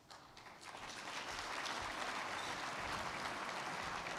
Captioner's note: crowd clapping